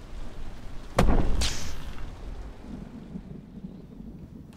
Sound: electricity buzzing; thunder rumbling

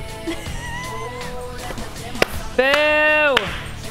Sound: laughing

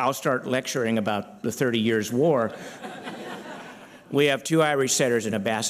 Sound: laughter

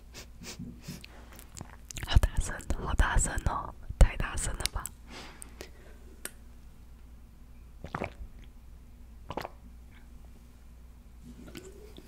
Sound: continues to chug can

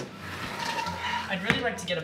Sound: window closes

